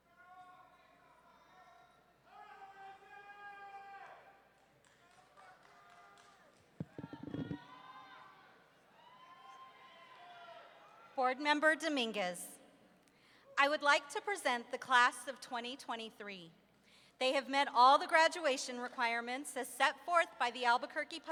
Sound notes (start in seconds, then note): 4.6 audience members clapping; 9.2 audience members whooping